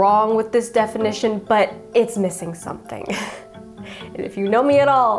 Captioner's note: chuckles